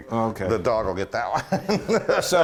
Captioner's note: laugh